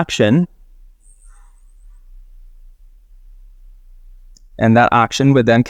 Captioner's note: sprite whirring